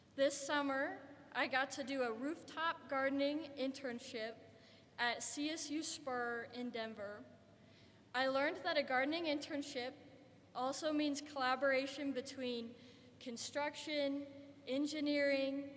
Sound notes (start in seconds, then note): none